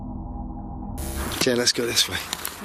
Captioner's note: static